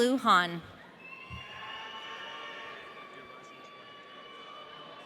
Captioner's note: audience cheering